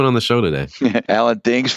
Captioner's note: laughter